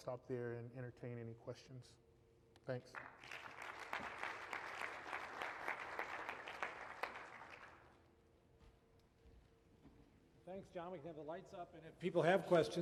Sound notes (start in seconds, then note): 2.8 applause